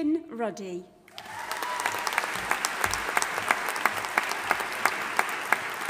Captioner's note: audience applauding and cheering